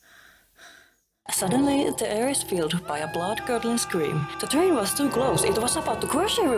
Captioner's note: sounds of screaming